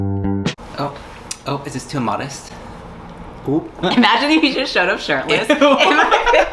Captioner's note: laughs